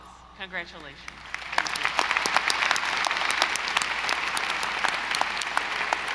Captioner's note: audience applauding